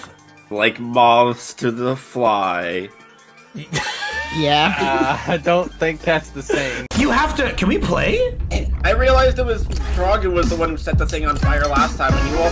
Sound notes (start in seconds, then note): 3.7 wheezing laugh